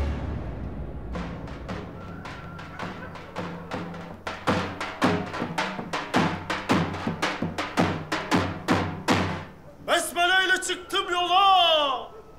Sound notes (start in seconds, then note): 1.3 drum roll; 1.7 rooster whistle